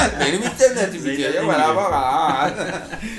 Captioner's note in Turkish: Kahkaha atarlar